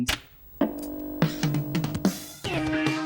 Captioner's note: click of old TV turning on; intro music